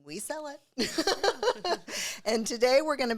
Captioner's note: both laugh